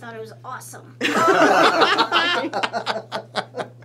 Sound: laughs

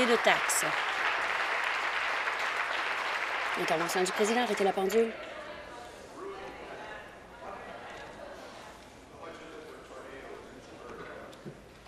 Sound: applause

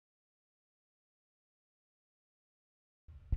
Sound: silence

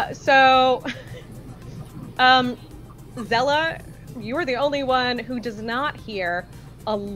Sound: chuckles

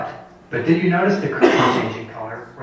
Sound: cough drowns out audio

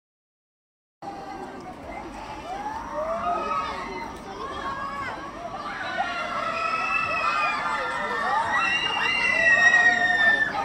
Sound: people screaming

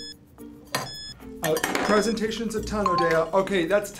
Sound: clock beeps

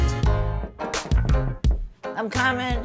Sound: hand knocking

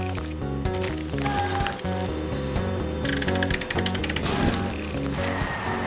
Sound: scraping & Clanging

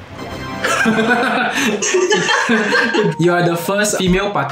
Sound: laughs

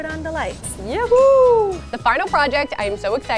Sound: cheering

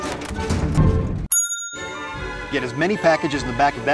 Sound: ding

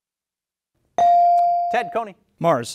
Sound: bell dings

